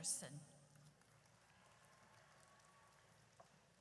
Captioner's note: audience cheers